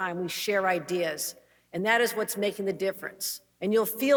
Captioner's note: none